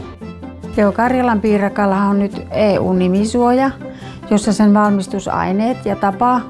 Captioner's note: woman speaking in foreign language